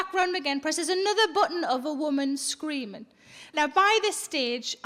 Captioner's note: none